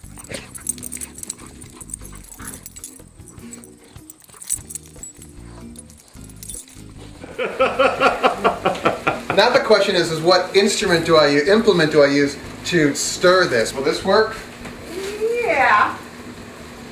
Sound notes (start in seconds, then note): 0.2 light music; 7.0 laughing